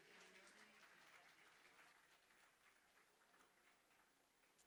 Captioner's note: applause